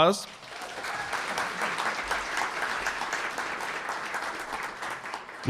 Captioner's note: audience applauding